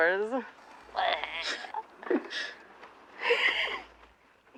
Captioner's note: giggling